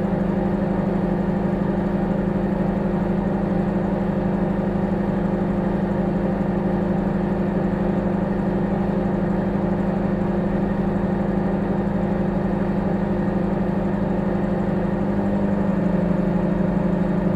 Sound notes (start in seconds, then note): 4.9 microwave humming